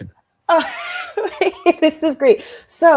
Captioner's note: laughs